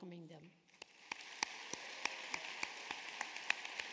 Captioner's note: applause